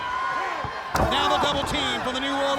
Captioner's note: blows thudding; body thudding